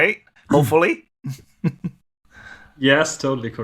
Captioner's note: chuckles